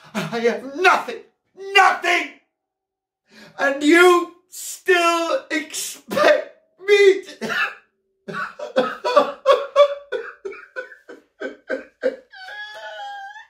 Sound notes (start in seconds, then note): 7.0 weeps